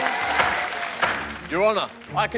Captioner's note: applause; gavel bangs